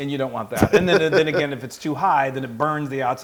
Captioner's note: laugh